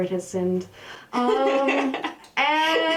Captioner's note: laughter